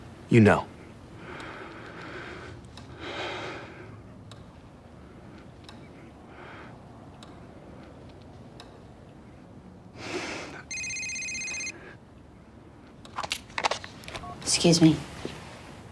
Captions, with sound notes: You know. [sighs] [phone ringing] Excuse me.